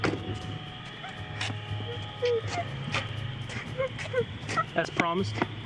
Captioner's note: girl whimpering